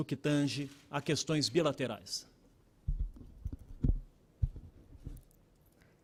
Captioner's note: speaking Portugese